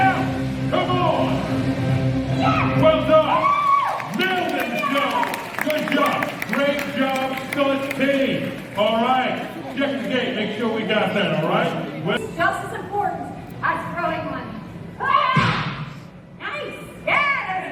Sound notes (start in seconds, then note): 3.5 audience claps